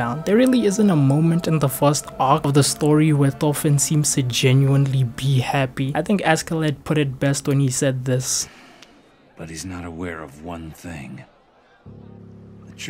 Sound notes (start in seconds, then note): 8.5 sigh